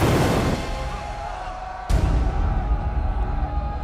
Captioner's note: all cheering